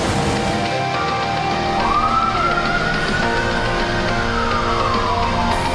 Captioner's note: intense instrumental music; siren wailing